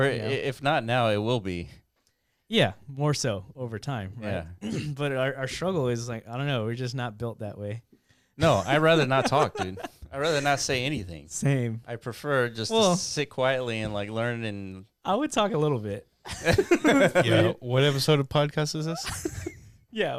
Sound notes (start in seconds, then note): 16.4 laughing